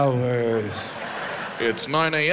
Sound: audience laughs

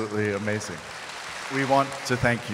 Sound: audience applauds

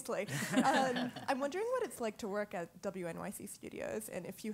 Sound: laugh

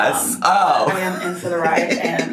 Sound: laughs

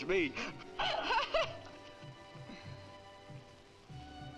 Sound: Nona laughing

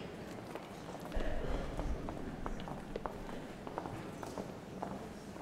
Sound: walking footsteps

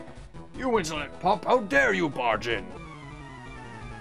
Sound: deep voice

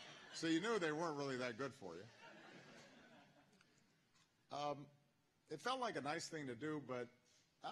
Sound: laughter

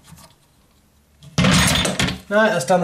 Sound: clanking

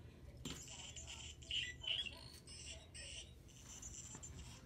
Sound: toy chirping

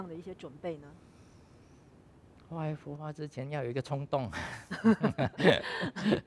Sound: laughs

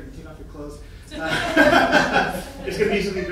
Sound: audience laughing

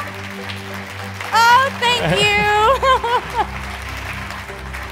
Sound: laughs

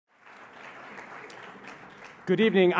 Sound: applause

